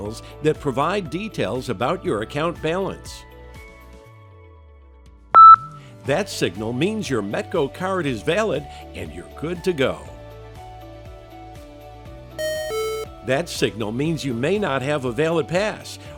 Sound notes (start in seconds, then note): 5.3 high-pitched beep; 12.4 low-pitched double beep